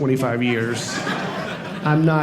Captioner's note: audience laughing